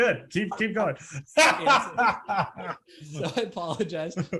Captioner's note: laughs